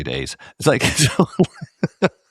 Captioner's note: laugh